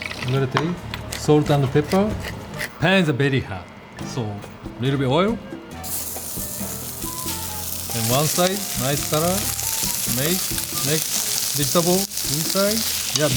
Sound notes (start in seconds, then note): 6.4 pan sizzling